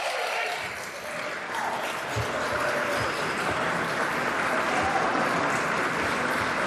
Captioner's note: applause